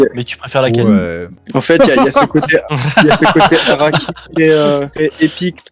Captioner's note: laughs